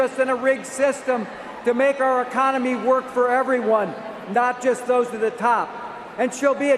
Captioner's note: cheers and applause